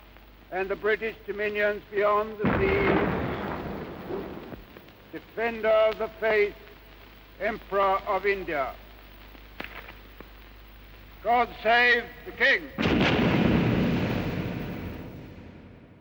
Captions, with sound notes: and the British Dominions beyond the seas, (cannons booming) Defender of the Faith, Emperor of India. God save the King! (cannons booming)